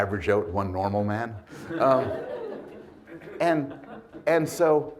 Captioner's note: audience laughs